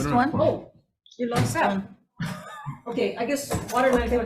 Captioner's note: laughing